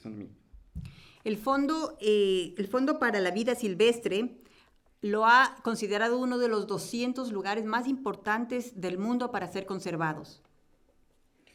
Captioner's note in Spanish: Español